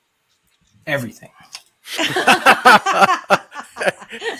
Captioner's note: all laughing